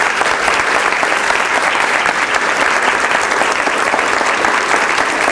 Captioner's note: applause